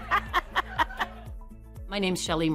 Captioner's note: laughter